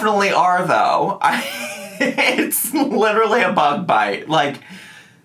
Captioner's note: laughs